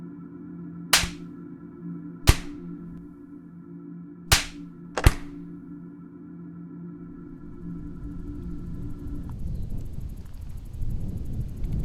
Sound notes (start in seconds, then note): 2.2 gun firing; 4.3 wind blowing